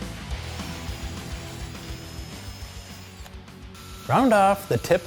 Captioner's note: drill whirring